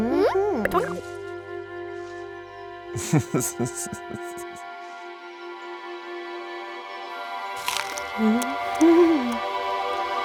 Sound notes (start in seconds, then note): 2.9 serpent laughing